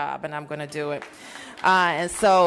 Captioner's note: applause